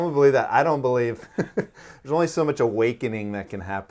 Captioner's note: laughing